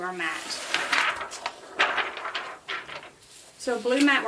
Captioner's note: plastic wobbling